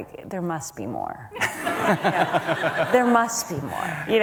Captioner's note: audience laughter